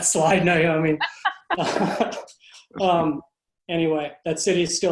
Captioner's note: laughing